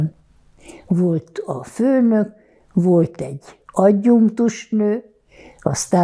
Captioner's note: counting